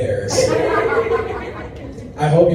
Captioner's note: laughter